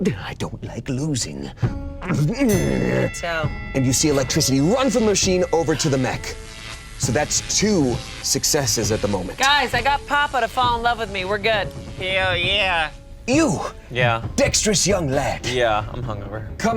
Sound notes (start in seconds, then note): none